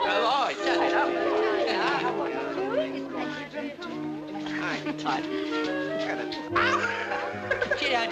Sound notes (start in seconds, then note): 3.5 jazz music; 3.5 people chattering